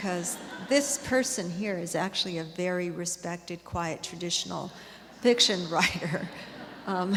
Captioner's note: laughter